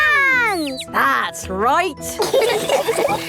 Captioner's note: all laughing